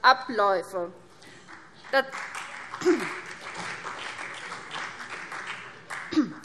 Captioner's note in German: Vereinzelter Beifall CDU und BÜNDNIS 90/DIE GRÜNEN